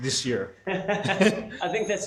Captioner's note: laughing